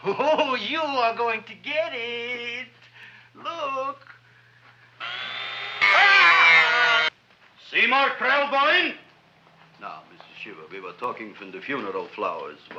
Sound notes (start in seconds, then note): 5.0 drill droning; 5.1 patient screaming